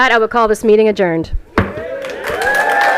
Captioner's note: gavel hitting dais; applause and cheering